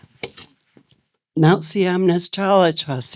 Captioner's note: speaking in foreign language